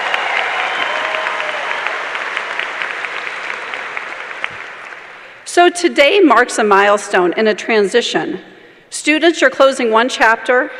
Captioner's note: cheers and applause